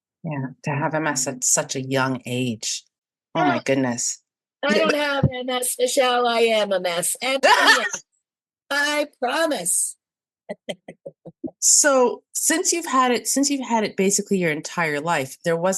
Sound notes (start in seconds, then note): 7.4 holler's out laughing; 10.6 laughing